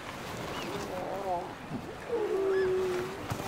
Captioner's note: seals groaning